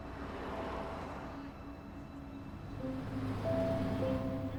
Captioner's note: traffic whooshing